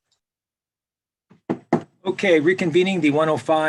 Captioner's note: gavel sounds